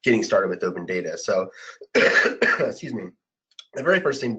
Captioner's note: coughing